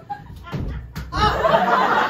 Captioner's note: slap